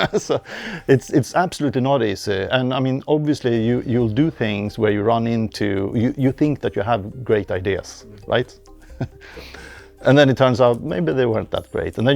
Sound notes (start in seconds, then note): 0.0 laughs